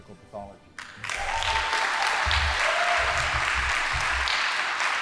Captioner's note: audience applauding